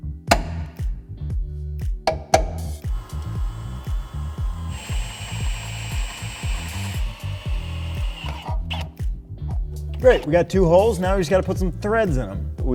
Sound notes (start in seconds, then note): 0.3 hammering; 2.8 drill buzzes